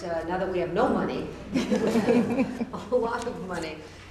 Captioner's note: laughter